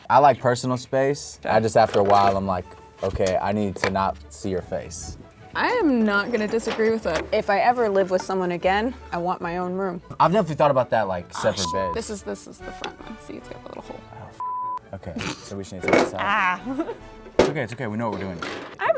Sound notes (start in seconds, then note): 11.6 beep; 14.4 beep; 16.2 laughs